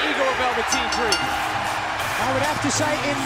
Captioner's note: bell ringing